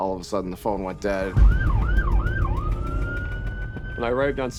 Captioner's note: sirens blaring